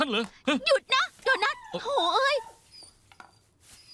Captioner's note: dog whining